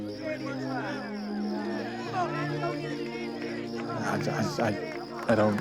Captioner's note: crowd heckling